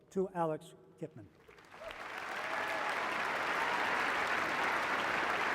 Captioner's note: applause